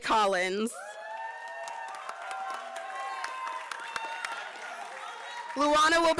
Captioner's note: applause